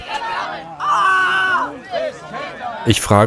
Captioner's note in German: Schrei